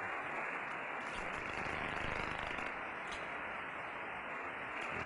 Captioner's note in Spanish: Estática; Crujido